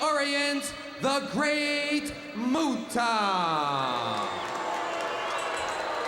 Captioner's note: crowd boos